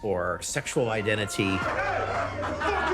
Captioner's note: chatter